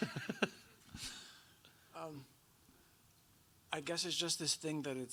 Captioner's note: both laughing